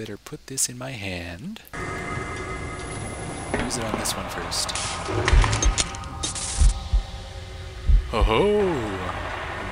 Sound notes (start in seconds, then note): 1.8 electrical noises